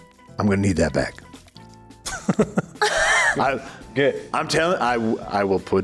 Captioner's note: chuckles